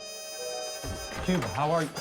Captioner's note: door opens